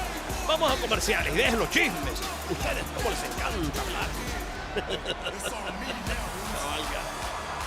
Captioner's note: laugh